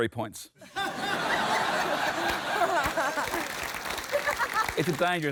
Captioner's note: laughter